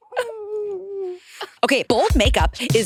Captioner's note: participants laughing